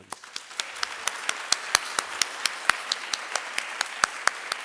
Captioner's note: audience applauding